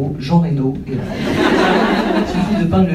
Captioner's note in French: rires